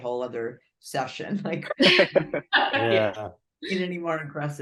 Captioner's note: laughing